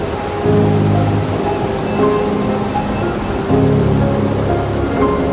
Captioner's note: rain splashing